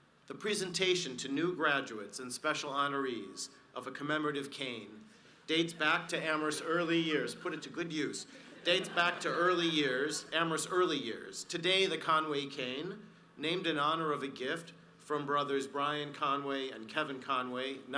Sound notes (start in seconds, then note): 8.2 audience laughs